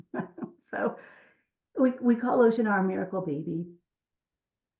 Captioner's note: laughs